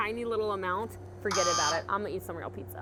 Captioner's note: buzzer